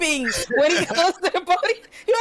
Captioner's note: laughing